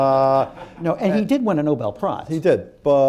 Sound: laughter

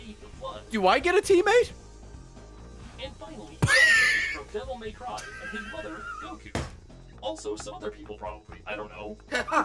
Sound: laughs

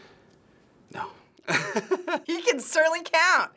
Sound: laughing

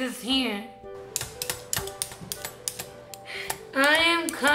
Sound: peeling

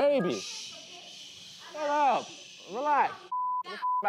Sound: muffled yelling

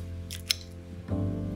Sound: soft jazzy music continues; galette crunches; fork clinking

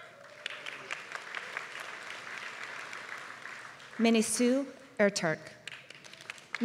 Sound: applause

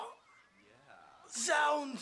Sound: groaning

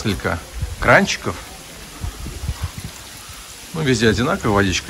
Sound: water noise

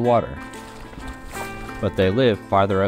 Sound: water sloshing

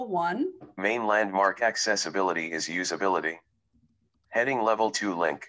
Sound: recorded voice

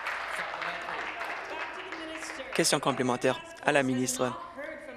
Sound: applause

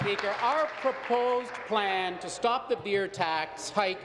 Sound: applause

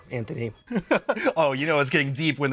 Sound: laughs

